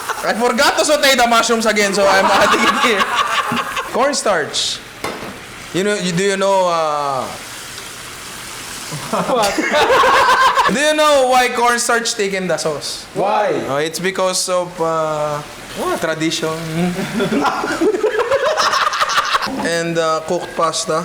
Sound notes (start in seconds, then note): 2.0 laughter; 8.9 laughter; 16.8 laughter